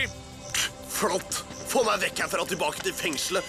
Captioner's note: scoffs